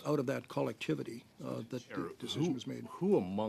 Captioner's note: speaking French